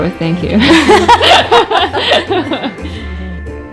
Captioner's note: laughing